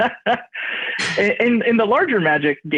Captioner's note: laughs